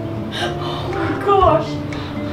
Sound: gasping

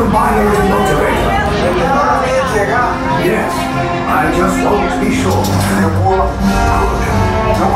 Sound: Nien Nunb in native language

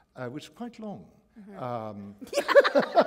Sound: laughter

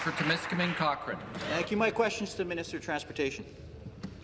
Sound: applause

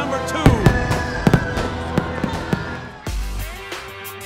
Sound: crowd cheering; fireworks exploding; upbeat music

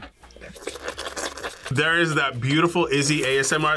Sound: loud slurping

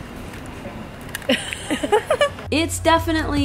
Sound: laughs

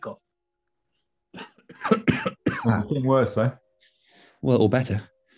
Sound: coughing

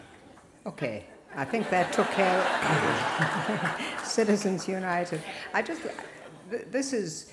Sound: laughter

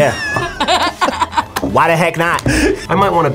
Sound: both laugh

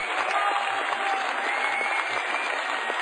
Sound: applause

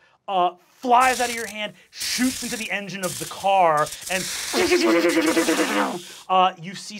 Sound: electrical zapping

